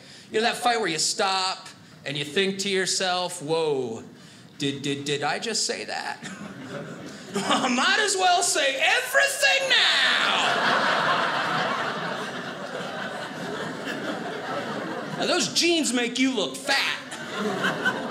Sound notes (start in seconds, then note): 10.1 audience laughing